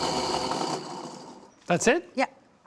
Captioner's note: whirring; processor stops